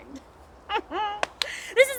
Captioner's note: sniggers